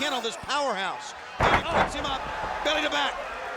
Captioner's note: bodies thudding